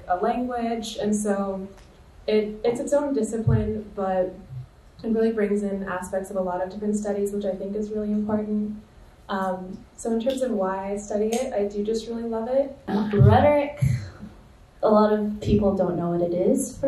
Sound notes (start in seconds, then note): none